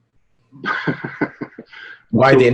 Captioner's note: chuckles